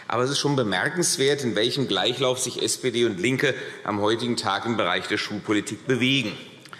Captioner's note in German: none